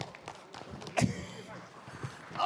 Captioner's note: applause